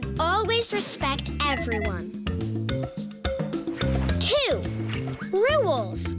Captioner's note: tinkling; bell ringing